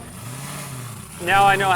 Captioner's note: engine revving